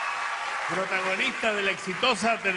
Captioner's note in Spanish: aplausos